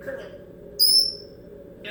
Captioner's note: hellish smoke alarm chirp